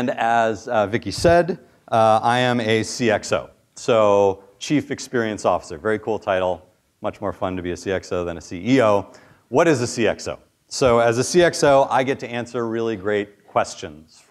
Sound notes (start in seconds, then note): none